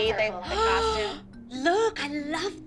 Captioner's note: gasp